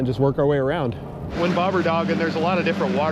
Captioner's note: boat engine running